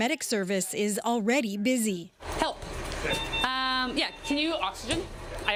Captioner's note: sirens